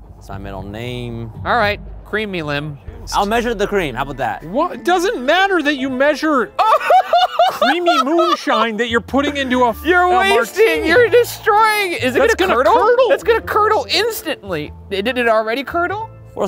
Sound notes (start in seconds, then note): 6.5 laughing